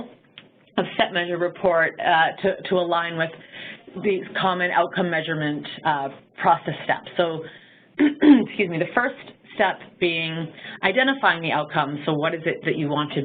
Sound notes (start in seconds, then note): 8.0 clearing throat